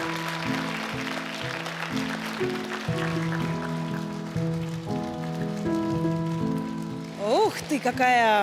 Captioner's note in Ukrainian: оплески